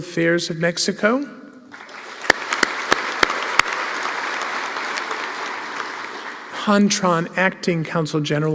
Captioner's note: applause